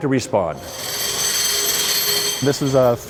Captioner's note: noise of machinery